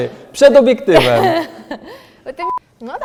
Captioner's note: stupid laugh